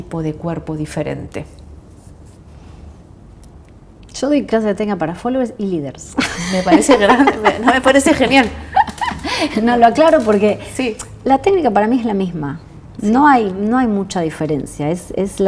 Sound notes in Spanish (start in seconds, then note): 6.2 risas